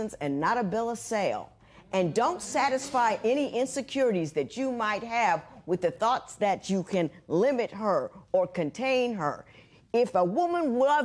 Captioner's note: spectators murmuring